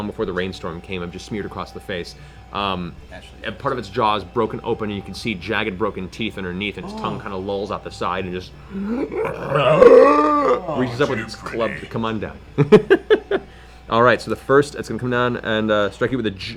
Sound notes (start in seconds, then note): 8.7 undead groan; 12.5 laughs